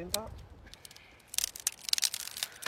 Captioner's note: crackling